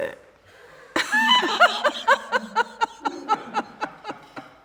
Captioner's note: all laughing